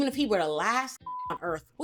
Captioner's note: beep